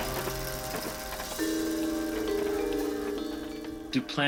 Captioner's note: chimes ringing